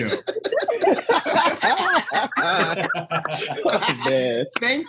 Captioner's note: all laughing